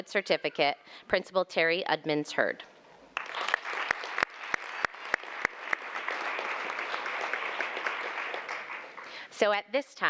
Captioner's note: applause